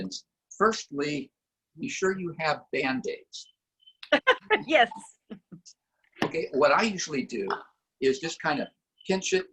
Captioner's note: laughter